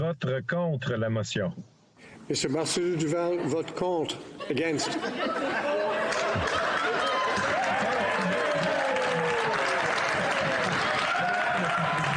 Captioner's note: cheering